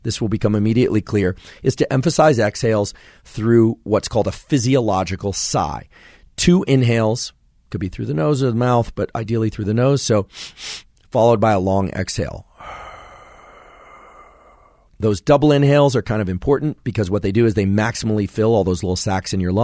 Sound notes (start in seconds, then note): 10.3 inhales quickly twice; 12.5 exhales slowly